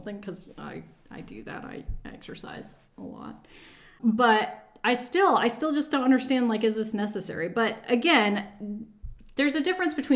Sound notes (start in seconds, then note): none